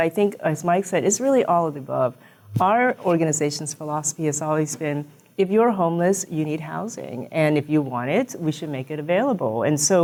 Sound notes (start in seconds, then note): none